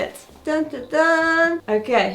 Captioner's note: humming